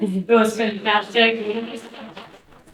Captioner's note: audience applauding